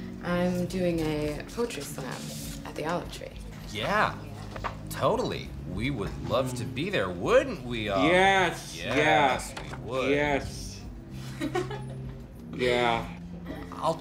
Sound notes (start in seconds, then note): 11.2 laughs